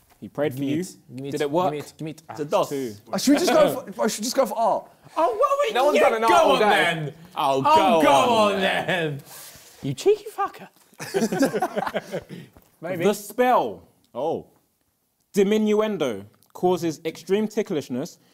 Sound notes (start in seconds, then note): 11.0 both laughing